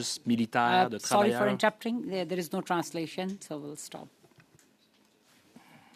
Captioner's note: speaking French